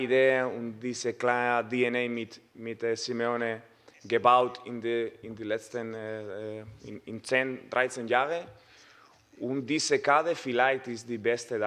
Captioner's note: Spanish